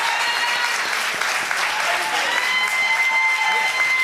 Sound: cheers and applause

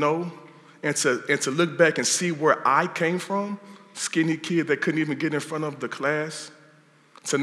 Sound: none

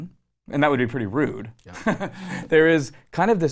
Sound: laughs

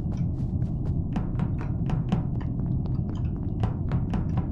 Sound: footsteps

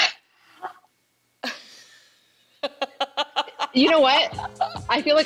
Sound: both laugh

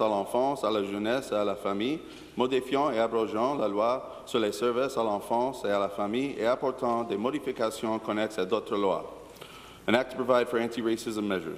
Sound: speaking in French

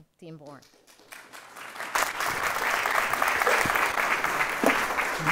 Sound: audience clapping

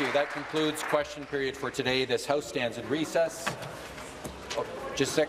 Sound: applause

